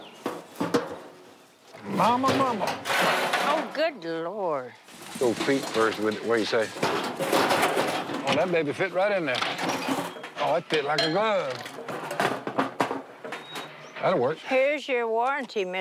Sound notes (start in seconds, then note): 2.1 clanks; 6.5 objects clatter; 11.6 clatters